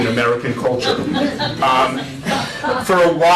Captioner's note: laughter